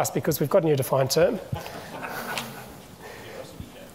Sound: audience chuckling

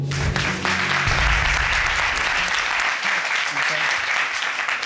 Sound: audience applauding

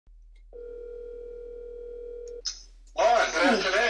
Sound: phone ringing

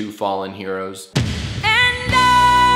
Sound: boom

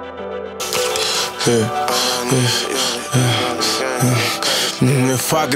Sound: heavy breathing

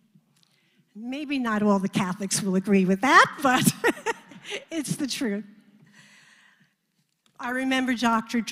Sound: laugh

